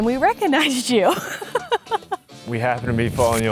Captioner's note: laughs